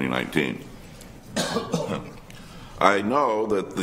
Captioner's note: coughs